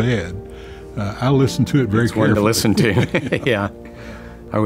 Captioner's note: laughs